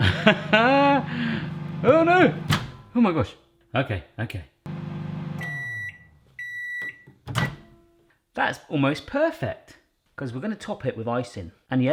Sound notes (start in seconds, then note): 0.0 laughs; 5.3 beeps